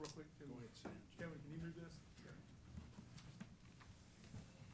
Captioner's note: background conversations